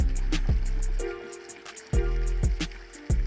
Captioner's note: water sounds